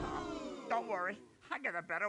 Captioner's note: audience "ooh"s sympathetically